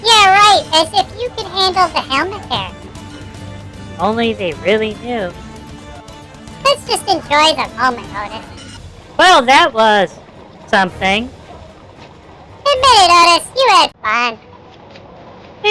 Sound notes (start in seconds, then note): 0.0 laughing; 4.4 whispering to Ollie; 9.7 sighing